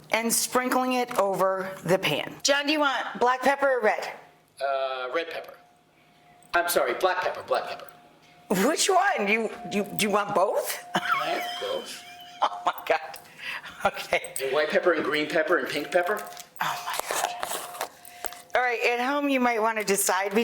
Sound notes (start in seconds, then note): 10.9 chuckles